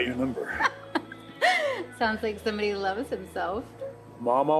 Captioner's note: laughs